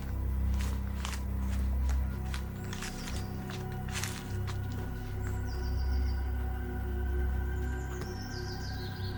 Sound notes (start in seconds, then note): 0.5 footsteps thumping; 5.6 birds chirping